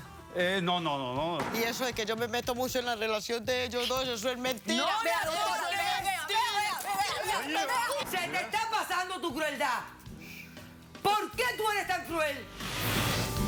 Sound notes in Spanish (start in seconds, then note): 4.6 gritos y exclamaciones